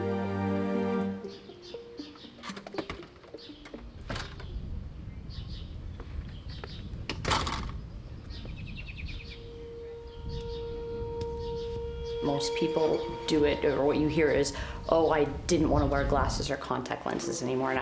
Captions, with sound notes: (birds chirping) - Most people do it or what you hear is, oh, I didn't want to wear glasses or contact lenses anymore.